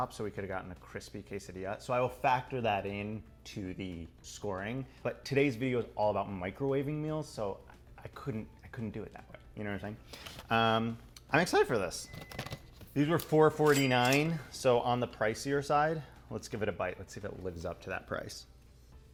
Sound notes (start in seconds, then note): 12.0 register ka-ching